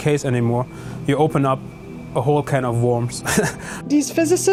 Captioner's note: laughing